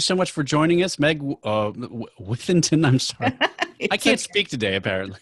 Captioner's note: laughs